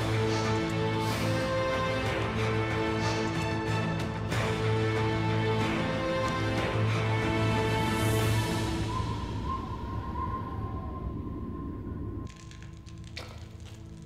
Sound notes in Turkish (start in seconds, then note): 8.6 Baykuş ötüyor; 10.8 Gerilim müziği